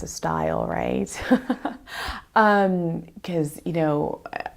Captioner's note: laughs